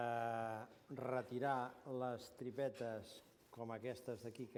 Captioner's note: non-english speech